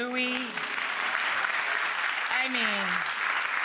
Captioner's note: audience clapping